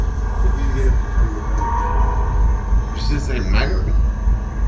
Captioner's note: ghostly voice